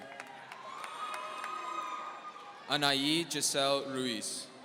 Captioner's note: audience cheering